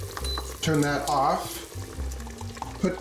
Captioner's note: beeps